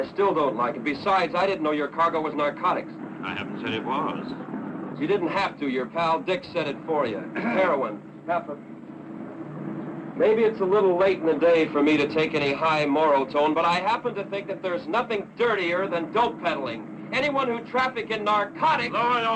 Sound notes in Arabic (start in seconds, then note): 7.3 سعال بوب